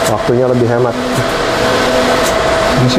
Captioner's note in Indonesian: suara mesin printer